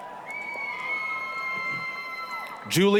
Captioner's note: applause, cheering